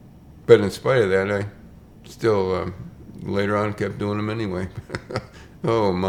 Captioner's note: chuckles